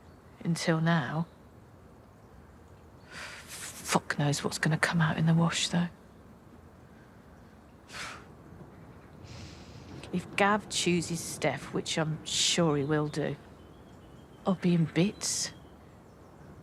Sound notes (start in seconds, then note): 7.9 she sighs, inhales